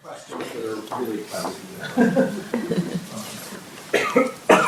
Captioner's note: audience laughs